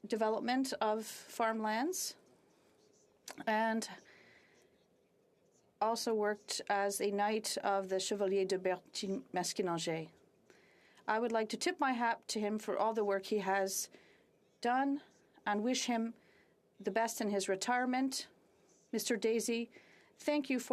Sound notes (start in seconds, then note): 15.6 speaking French